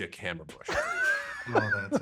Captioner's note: laughs